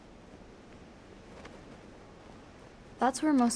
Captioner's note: flag whips in wind